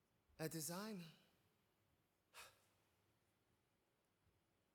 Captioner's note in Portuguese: sighs